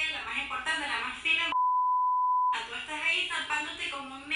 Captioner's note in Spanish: Bip